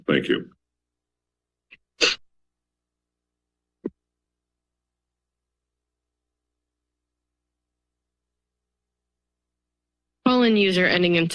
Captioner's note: silence